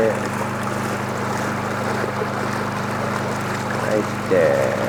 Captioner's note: boat motor burbling